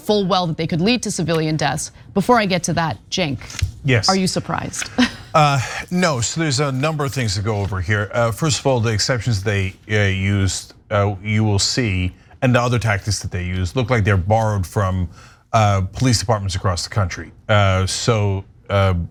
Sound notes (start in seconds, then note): 4.8 laugh